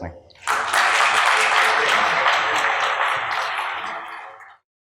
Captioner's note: applause